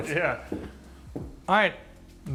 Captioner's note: laughs